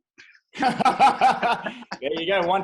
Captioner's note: both laughing